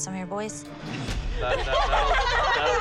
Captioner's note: laughter